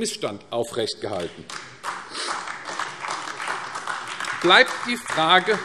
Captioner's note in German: Beifall AfD